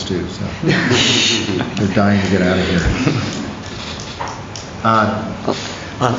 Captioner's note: laughter